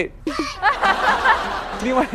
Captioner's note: can't stop laughing